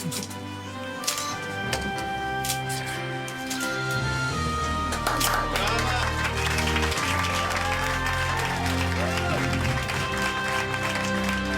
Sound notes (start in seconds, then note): 0.0 classical music; 4.8 crowd claps